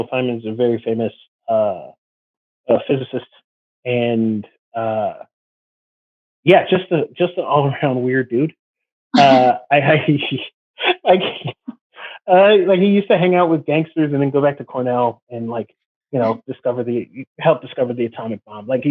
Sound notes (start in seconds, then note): 9.1 chuckles; 10.8 laughs